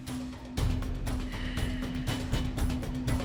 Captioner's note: sigh